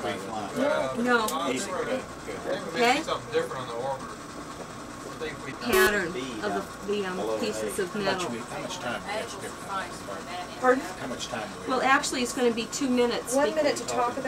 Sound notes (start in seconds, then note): 3.2 men murmuring in background; 5.7 beeping